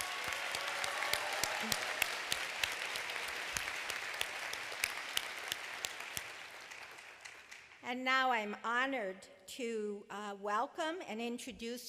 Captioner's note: applause